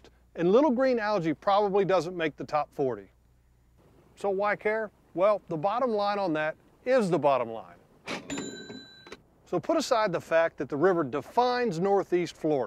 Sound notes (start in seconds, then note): 8.1 money sound - * Kaching!